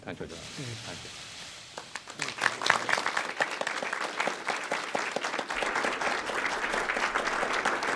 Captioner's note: applause